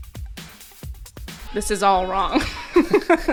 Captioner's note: laughing